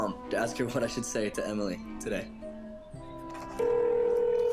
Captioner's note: phone ringing